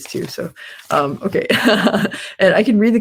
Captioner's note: laughs